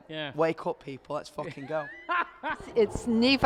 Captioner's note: laughing